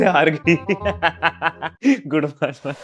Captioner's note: laughing